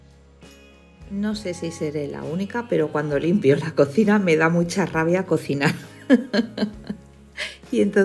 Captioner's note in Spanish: risas